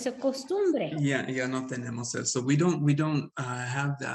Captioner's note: Sandra speaking Spanish; speaking Spanish